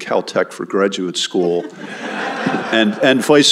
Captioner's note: laughter